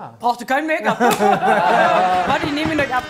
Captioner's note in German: Lachen